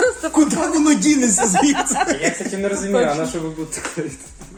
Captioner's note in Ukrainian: сміх